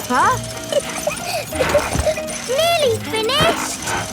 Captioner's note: peppa laughing